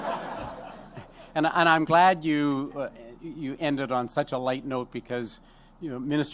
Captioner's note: laughter